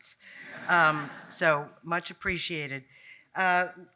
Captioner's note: audience laughing